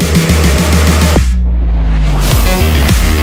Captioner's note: none